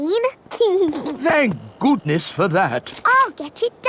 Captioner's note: giggles